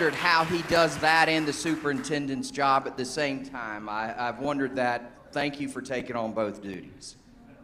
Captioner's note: applause